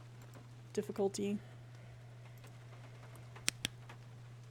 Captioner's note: rhythmic Huffing; flashlight Clicks On